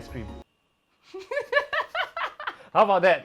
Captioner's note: nervous laughter